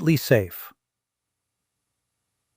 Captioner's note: pause